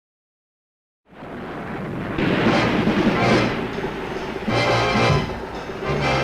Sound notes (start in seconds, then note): 1.1 waves crashing; 2.2 dramatic theatrical music